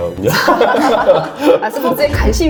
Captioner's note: sounds of laughter